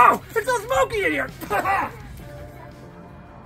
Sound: Sub-Zero Coughs

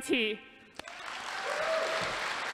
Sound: applause

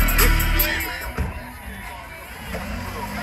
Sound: door closes

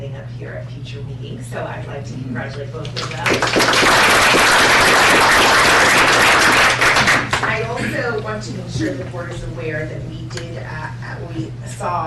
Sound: applause

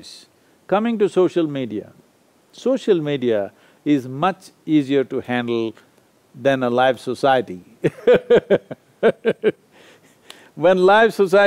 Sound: laughs

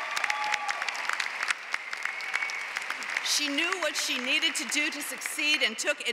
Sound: applause

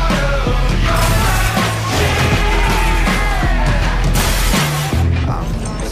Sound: smashing and yelling

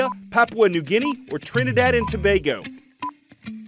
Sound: voice-over

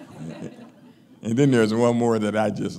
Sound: laughing

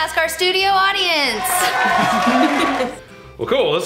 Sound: audience cheering

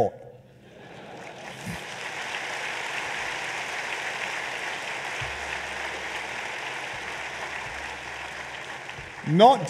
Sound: laughter and applause

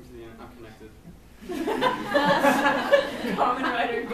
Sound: laughs

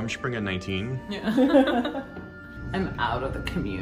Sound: group laughing

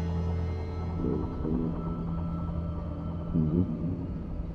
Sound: distorted speaking

